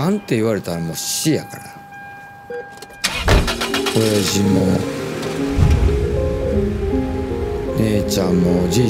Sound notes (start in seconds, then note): 3.4 engine coughing